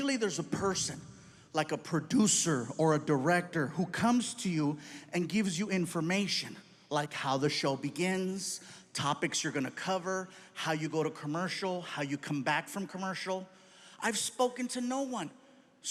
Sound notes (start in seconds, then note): none